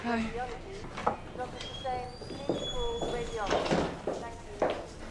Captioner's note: woman over P.A